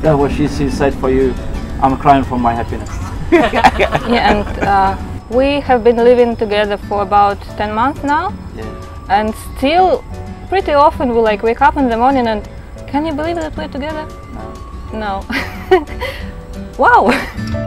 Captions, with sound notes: Yeah, well, she said for you, "I'm crying for my happiness." (laughs) - Yeah and we have been living together for about 10 month now and still pretty often we'll like wake up in the morning and, "Can you believe that we're together?" "No." (laughs) we'll like wake up in the morning and,